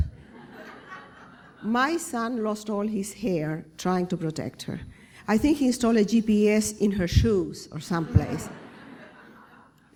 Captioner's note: laughter; laughter